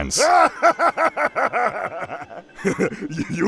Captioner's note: Heavy Guy laughs hard